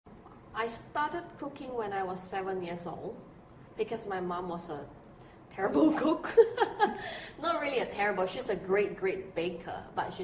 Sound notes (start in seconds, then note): 6.3 laughter